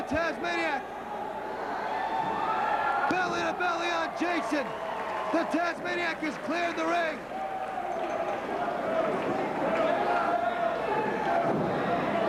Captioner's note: crowd cheering